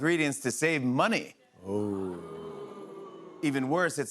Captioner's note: audience boos